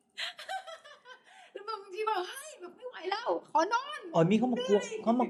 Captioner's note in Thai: เสียงหัวเราะ